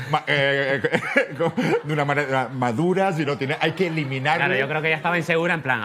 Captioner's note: laughs